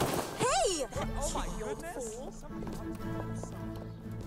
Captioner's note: crowd mutters